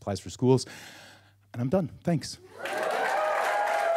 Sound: takes deep breath; applause, cheers

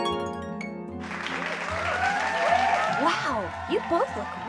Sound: audience applauds and cheers

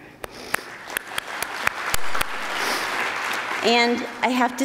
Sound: attendees applauding

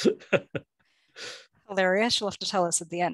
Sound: chuckle

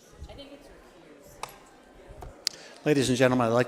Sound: overlapping chatter

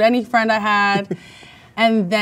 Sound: man laughs

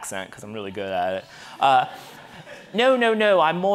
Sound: audience laughing

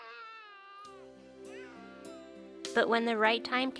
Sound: baby crying

